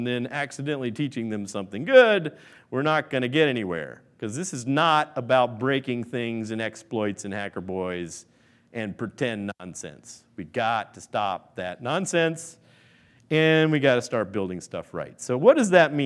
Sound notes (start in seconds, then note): none